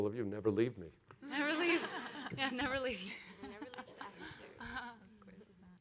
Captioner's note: laughing